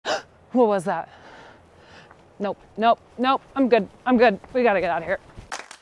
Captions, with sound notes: - (gasps) What was that? Nope, nope, nope. I'm good, I'm good. We gotta get outta here.